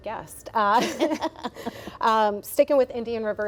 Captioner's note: laughs